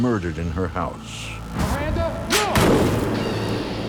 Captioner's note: gunshot